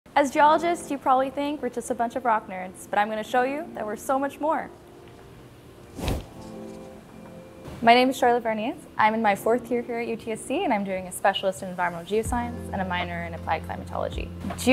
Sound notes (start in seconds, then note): 5.8 air whooshing; 5.9 gentle upbeat music